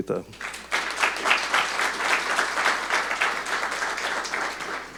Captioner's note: audience clapping